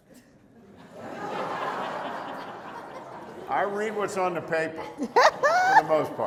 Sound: laughter

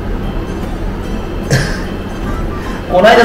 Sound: laughs

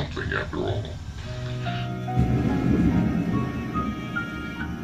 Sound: television; soft music

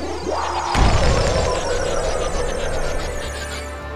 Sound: magical whooshing

